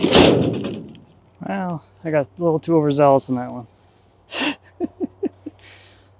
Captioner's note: laughs